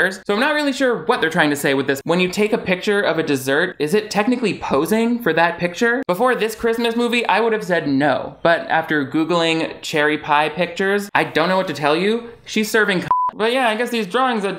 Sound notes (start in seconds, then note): 13.0 beep